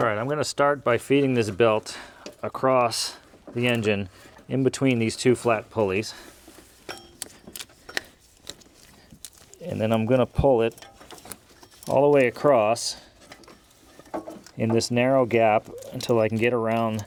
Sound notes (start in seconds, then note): 6.8 metal clanking